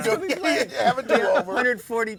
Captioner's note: laughing